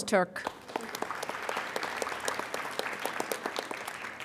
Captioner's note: applauding